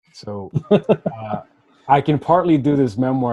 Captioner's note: laughing